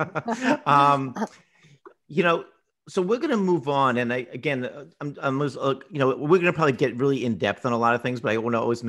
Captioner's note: laughs